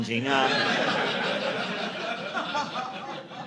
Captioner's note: audience laughing